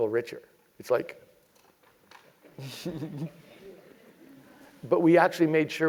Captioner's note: laugh